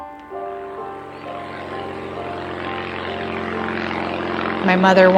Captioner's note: airplane engine roars